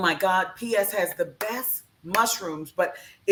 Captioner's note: clap hands